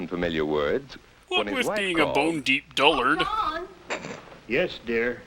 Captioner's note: snickers